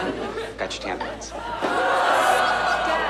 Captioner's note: laughter